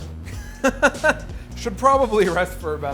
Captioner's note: laughs